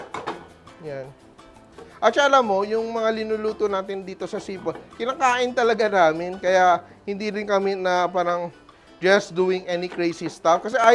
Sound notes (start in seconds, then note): none